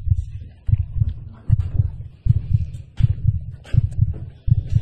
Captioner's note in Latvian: dzirdami pastiprināti sirdspuksti